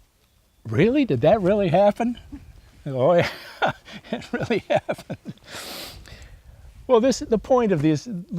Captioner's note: laughs